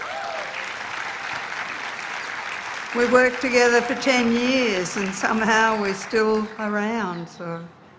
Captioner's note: applause